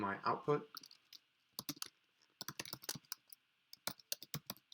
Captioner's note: keyboard clicking